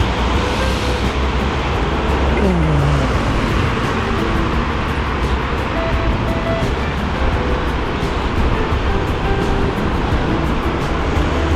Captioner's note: wind Blowing